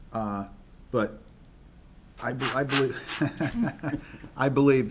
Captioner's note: chuckles